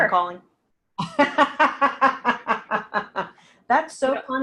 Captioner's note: laughing